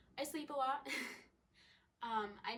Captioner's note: laughs